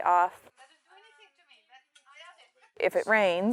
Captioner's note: background chatter